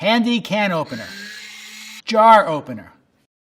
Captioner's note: spring thwacking; whirring; jar lid popping